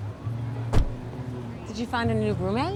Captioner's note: car door closing